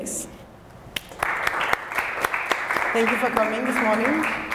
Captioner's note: applause